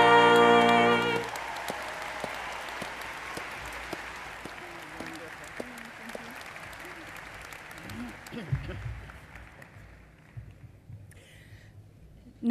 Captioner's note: applause